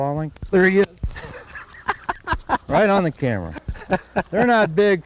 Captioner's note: laughter